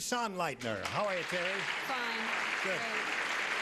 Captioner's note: applauding